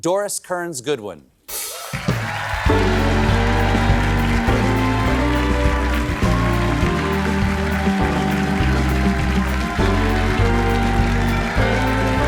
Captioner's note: cheers and applause